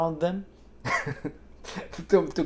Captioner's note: laughs